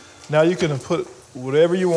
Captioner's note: none